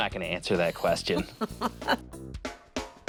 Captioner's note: laughing